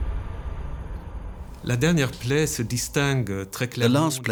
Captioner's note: speaking French